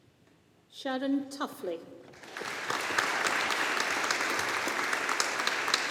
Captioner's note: audience applauding